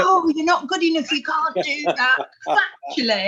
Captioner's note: laughing